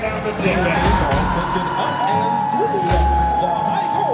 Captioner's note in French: applaudissements